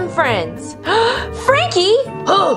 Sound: gasps

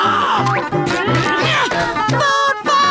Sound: gasps

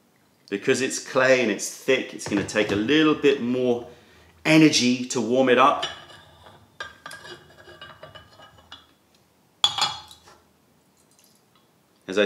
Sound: pouring

